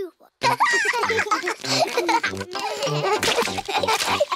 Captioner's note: both giggling